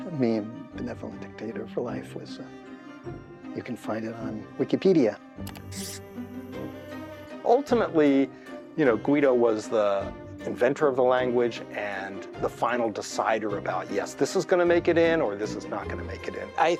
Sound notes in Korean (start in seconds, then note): 5.4 클릭 소리; 5.5 줄 긋는 소리